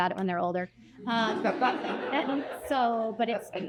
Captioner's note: laughter